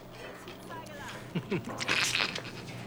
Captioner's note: chuckles